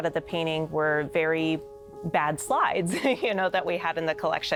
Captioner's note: laughing